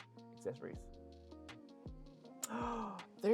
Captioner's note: gasps